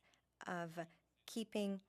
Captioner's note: speaking French